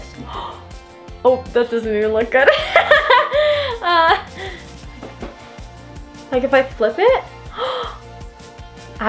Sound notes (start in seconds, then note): 0.2 gasping; 2.6 laughing; 7.4 gasping